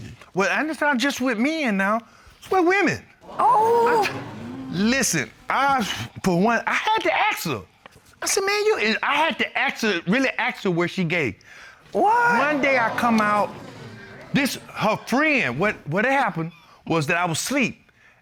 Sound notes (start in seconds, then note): 3.2 audience gasping; 3.3 sighs